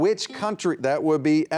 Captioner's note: buzzer beeping